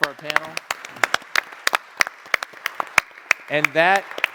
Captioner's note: audience applauds